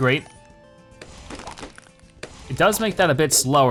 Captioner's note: balloons popping rapidly